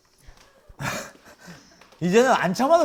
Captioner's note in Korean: 헛웃음